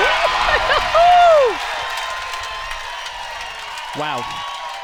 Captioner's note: cheers; crowd cheers; crowd applauds